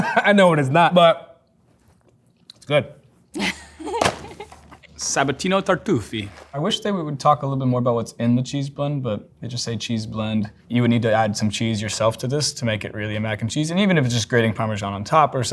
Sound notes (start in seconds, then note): 3.3 laughs